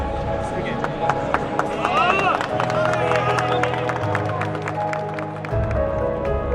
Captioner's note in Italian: applausi e grida di giubilo